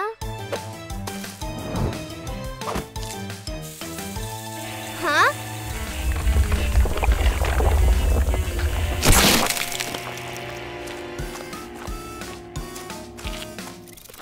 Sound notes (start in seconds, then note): 0.7 dramatic music; 3.6 sizzling; 5.3 crackling; 8.5 dramatic music; 8.5 slime splurts